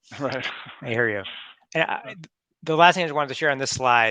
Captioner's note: laughs